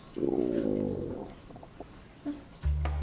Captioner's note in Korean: 꼬르륵